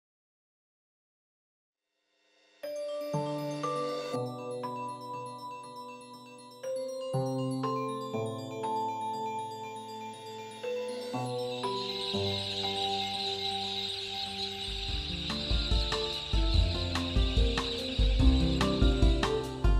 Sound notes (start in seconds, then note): 8.0 birds chirping